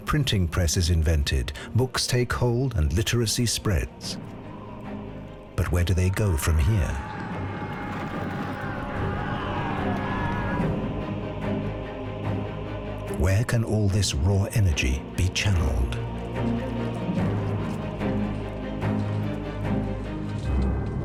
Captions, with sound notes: The printing press is invented; books take hold and literacy spreads. But where do they go from here? [warriors shouting] Where can all this raw energy be channelled?